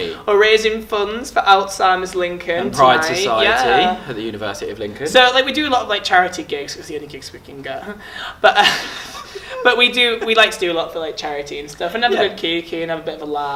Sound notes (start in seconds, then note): 8.4 laughing; 8.4 laughs